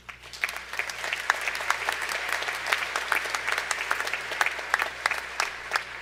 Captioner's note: applause